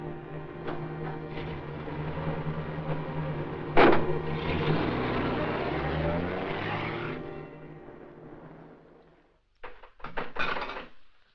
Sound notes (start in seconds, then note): 0.2 vehicle starts; 4.3 vehicle passes